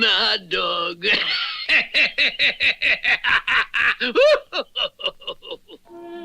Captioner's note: Simon Bar Sinister Laughs